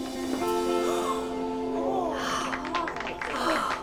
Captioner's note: gasps; applause